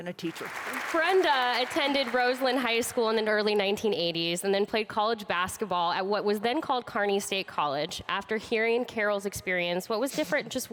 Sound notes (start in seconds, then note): 0.2 audience applauds